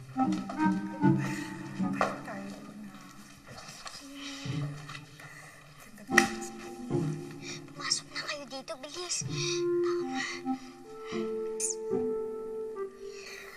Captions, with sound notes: [nanny whispering] [nanny whispering] Get in here now, hurry. Come on. Psst.